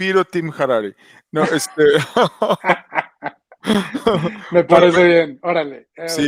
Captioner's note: laughs